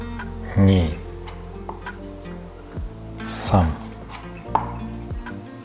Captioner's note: counting in Japanese